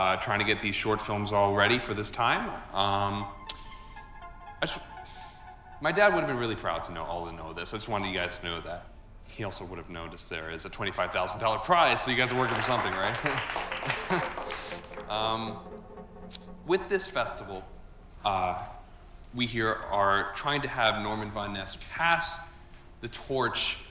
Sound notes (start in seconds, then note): 3.4 anxious music; 12.1 audience applauding